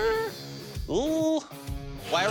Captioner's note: gulps